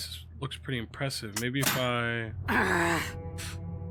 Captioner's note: Robyn groans